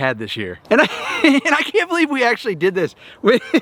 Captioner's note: laughs